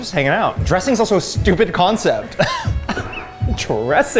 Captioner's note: laughs